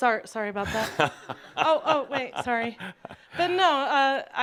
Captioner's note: laughs